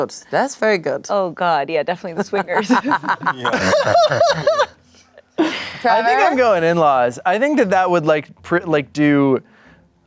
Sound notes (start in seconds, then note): 4.2 everyone laughs